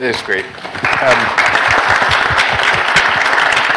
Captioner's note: applause